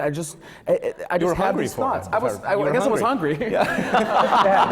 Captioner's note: laughter